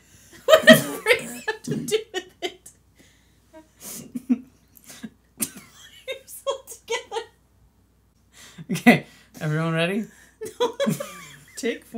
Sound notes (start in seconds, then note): 0.5 laughs; 4.0 laughter; 11.3 laughs